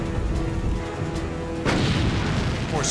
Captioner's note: explosion